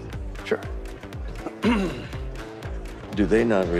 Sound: clears throat

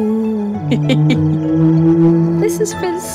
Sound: Pip bellows; Pip laughs

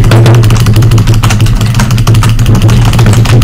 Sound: keyboard noises; more keyboard noises

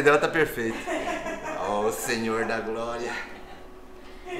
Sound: laughs

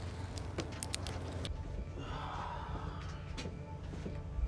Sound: sighs

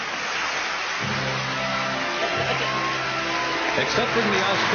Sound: applause on video; applause and music on video

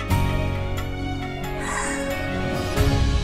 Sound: gasps

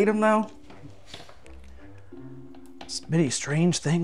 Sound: whiteboard tapping; whiteboards rattling

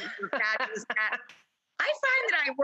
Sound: laughing

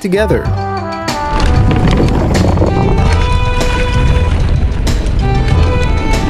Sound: tires rumbling on the ground

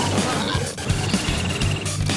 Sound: gasps

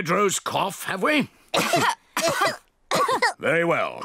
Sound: all cough

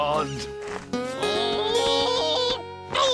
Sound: spud groans

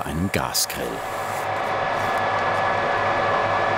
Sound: whirring

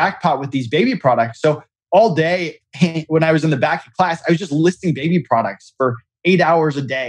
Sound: laughs

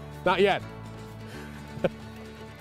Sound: laughs

